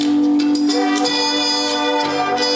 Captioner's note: none